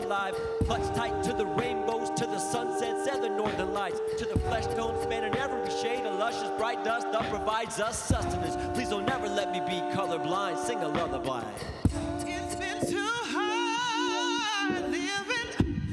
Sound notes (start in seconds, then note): 11.2 murmuring